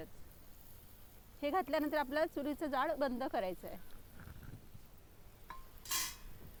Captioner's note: fireplace